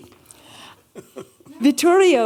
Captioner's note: chuckling